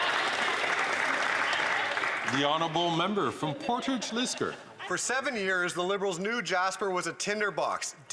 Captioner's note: some Applause